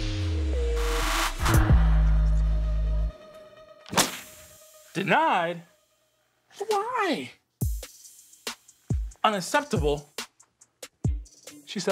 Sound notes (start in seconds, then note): 0.0 hip-hop music; 3.9 hand slamming on table